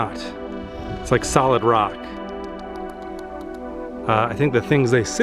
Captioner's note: tapping